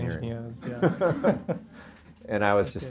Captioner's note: laughs